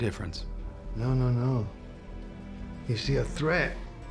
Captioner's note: scottish accent